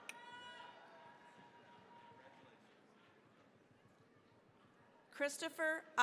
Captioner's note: cheering, applause